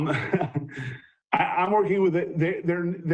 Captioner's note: chuckles